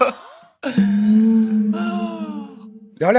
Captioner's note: laughing so hard I need to catch my breath